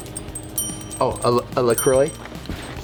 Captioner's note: ding